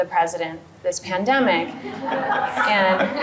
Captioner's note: audience laughing